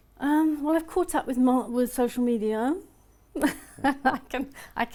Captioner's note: laughs